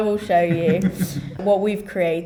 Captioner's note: laughs